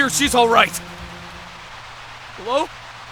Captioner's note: Static